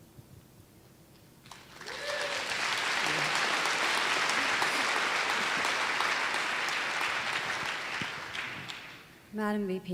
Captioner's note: applause